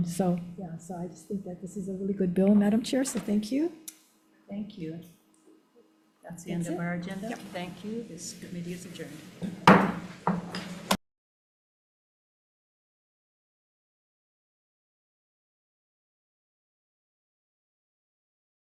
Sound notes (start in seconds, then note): 9.6 gavel thuds